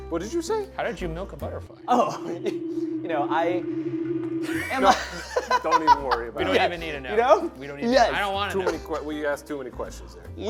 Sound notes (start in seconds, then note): 4.5 laughs